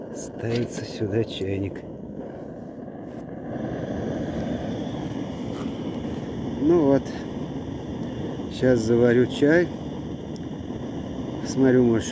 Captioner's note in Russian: шипение газа